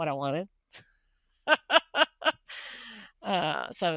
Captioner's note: laughing